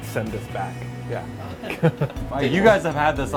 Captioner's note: laughs